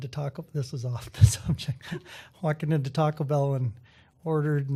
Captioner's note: chuckle